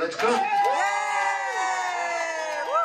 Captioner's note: cheering